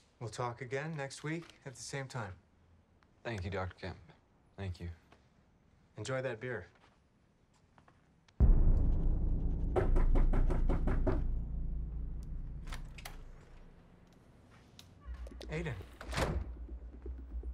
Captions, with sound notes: We'll talk again next week at the same time. Thank you, Dr. Kemp. Thank you. Enjoy that beer. (knock at door) (door opens) Aiden.